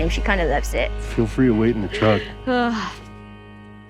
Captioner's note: ellie groans